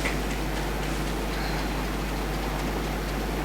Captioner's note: tapping